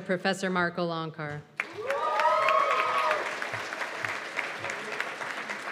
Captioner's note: cheers and applause